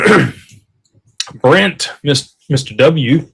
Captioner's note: clears throat